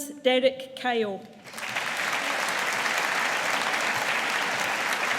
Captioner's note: audience applauding